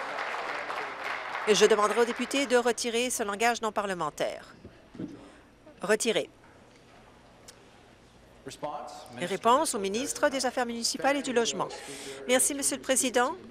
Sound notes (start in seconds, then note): 0.0 applause